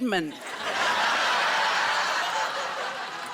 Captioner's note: laughter